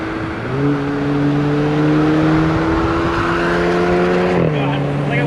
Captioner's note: car engine revs up